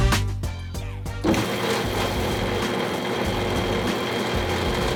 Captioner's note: machine purring